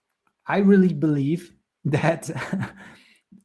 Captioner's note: chuckles